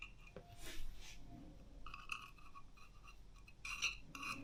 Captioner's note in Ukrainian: сопіння